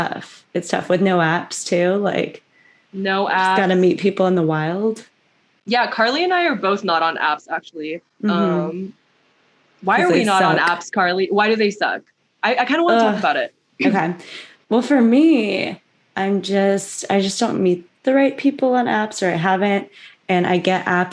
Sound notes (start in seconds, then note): 8.2 mhmm; 13.8 ugh